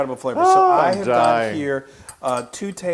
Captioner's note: laugh